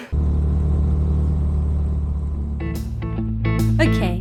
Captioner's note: motorbike; road music